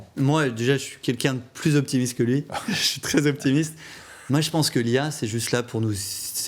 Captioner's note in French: rires